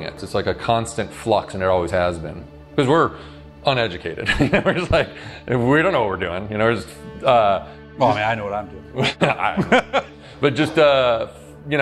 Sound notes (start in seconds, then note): 4.2 laughs